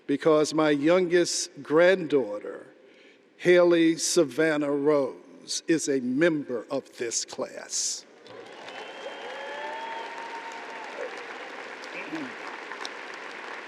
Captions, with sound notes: because my youngest granddaughter, Hailey Savannah Rose, is a member of this class. (audience applauding)